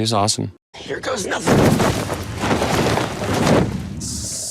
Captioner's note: sheets thud